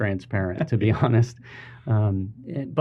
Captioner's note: laughing